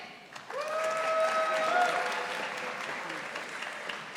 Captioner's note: audience applauding